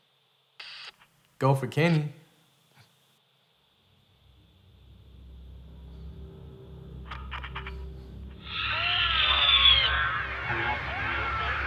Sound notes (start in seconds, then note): 2.4 static crackles; 8.3 ethereal voices screaming